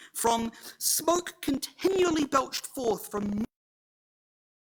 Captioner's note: audio distorts